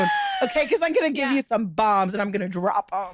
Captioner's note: laughter